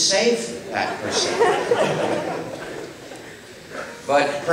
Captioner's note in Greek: Γέλια από το ακροατήριο